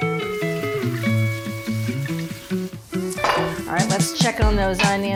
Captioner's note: water splashing